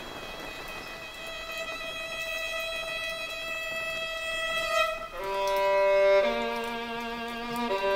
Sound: heavier rain

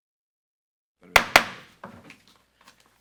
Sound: gavel bangs

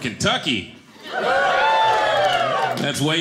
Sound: audience cheering

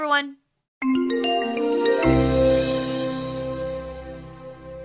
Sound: chiming bells

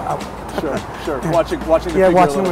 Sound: he laughs

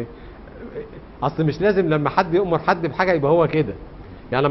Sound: in Arabic spoken language

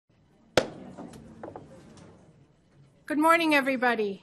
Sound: thump

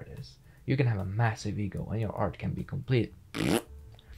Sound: fart noise

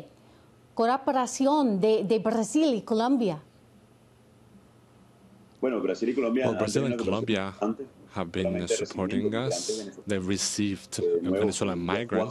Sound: speaking spanish

